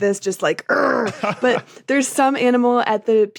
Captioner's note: laughs